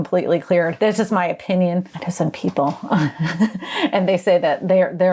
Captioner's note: laughs